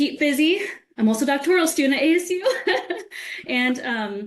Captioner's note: laughs